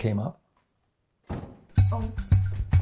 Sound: car door slams outside

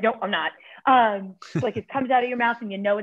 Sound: laughter

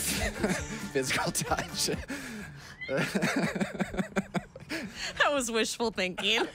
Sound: laughter

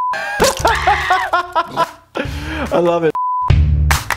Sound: beeping; Fry screaming; laughing; beeping

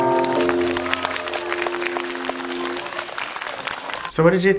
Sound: applause

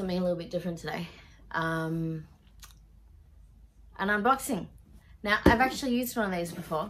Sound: thumps box

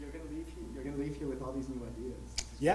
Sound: voiceover

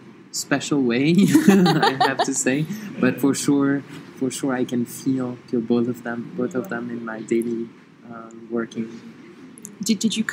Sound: laughs

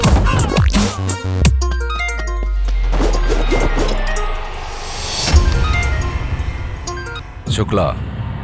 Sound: phone rings

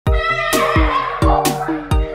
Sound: kids yelling

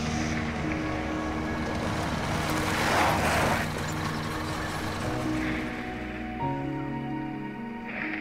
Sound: engine humming; chirping

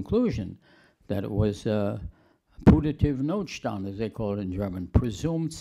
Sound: german

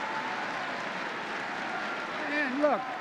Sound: laughter and applause

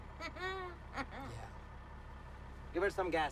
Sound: laughing

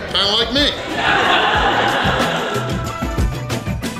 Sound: hahaha

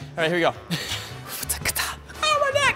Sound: beatboxes

